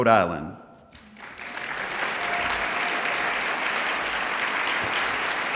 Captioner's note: audience clapping